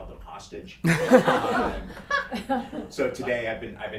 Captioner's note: everyone laughing